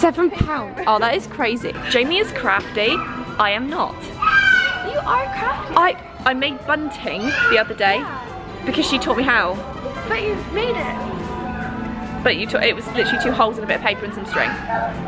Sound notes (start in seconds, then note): 4.2 child screeching